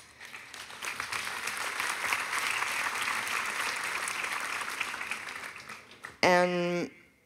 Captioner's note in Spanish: Aplausos